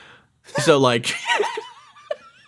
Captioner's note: giggles